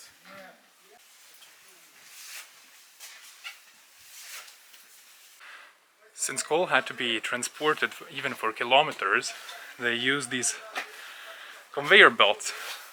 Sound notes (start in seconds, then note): 0.0 shuffling